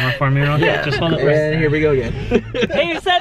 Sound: laughing

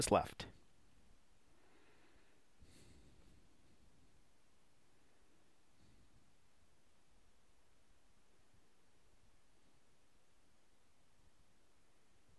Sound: pause in speaking

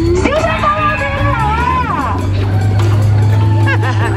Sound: speaks foreign language; laughs

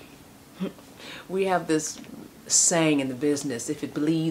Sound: scoffs

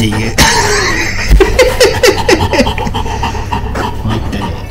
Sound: laughs

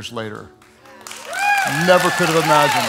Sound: applause

